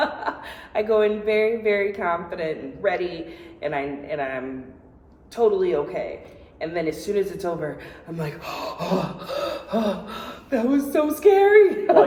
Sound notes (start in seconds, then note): 0.0 laughs; 8.2 heavy breathing